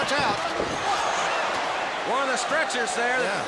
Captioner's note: crowd cheering